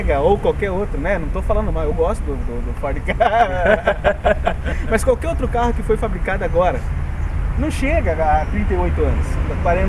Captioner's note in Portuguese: risos